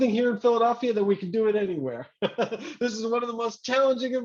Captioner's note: laughs